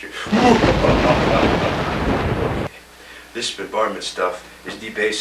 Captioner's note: ominous laugh